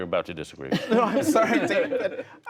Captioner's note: laughter